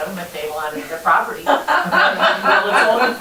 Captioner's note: laughter